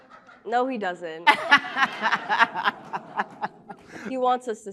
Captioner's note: laughter